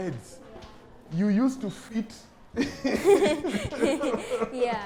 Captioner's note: both laugh